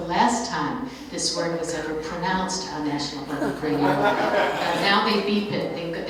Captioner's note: heartier laughter